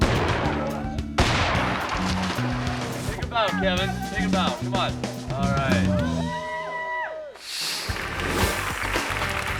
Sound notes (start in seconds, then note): 0.0 explosive booms; 5.4 people cheering; 7.4 graphics whooshing; 7.8 hands clapping